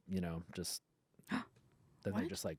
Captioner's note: gasps